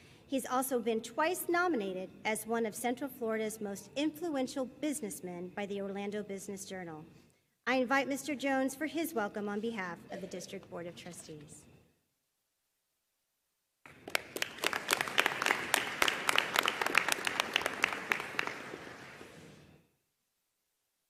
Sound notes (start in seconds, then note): 13.9 audience applauding